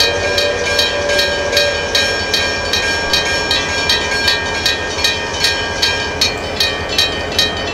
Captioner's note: railroad crossing ringing; PRR K4s whistle